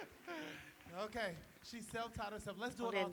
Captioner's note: applause